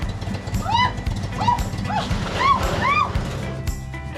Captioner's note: screams